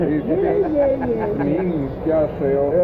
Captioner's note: laughter